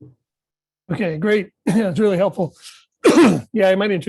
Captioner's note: coughs